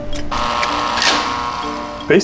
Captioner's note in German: Türöffner summt